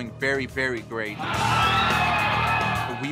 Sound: cheering

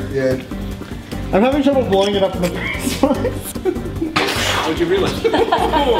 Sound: laughs

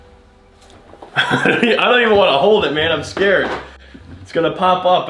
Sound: laughs

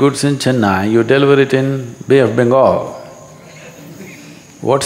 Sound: few laugh

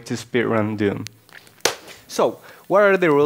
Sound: clappers

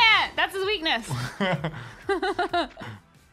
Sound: laughing

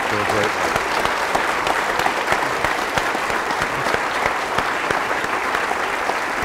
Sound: applause

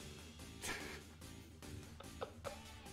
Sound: chuckles

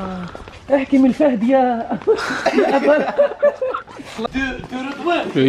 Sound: laughter

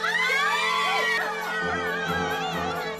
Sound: all cheering

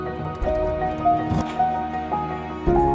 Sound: key unlocks the door

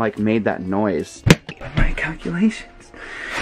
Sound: thud

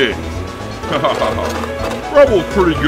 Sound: laughing

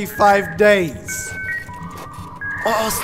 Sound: internet dial-up buzzing

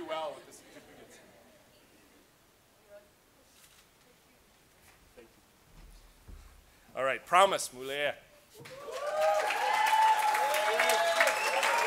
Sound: cheers and Applause

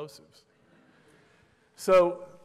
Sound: laughter

